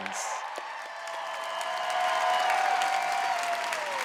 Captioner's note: applause